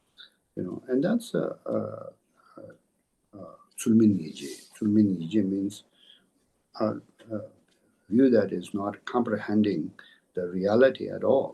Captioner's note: tibetan